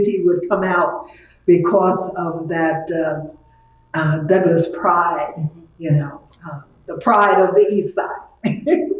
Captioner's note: laughs